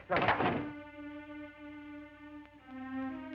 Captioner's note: door slams